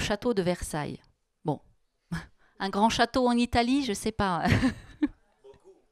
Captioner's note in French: elle rit